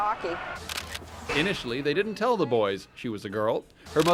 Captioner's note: camera clicks